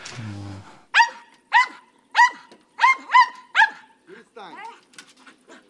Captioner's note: dog barks